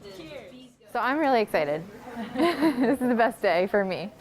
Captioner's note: laughs